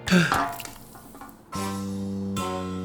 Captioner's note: gasping; can hissing